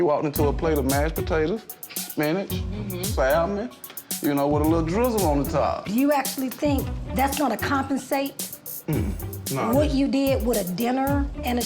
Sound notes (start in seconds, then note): 0.4 tense hip-hop music; 2.7 mmhmms